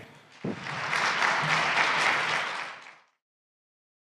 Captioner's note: audience applauding